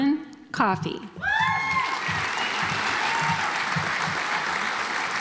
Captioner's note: audience applauds